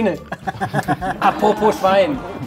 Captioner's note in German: Gelächter